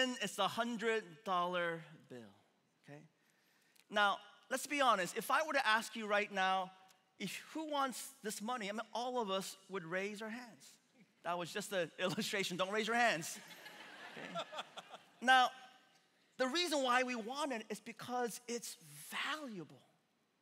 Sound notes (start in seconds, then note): 12.3 laughing; 13.4 congregation laughing